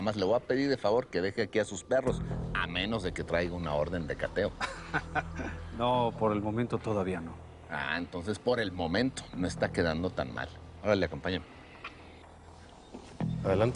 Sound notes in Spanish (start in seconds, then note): 4.5 Risas